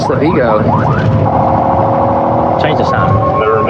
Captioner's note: wararningng s sirene